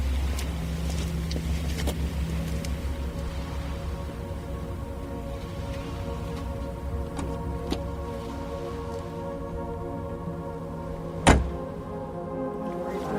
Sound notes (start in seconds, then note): 1.4 ominous music; 11.2 car door slams